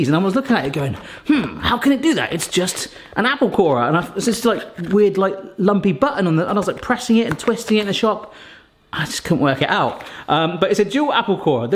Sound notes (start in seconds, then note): none